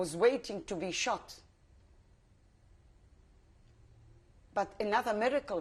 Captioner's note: pauses for 3 seconds